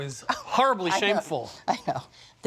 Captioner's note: laughing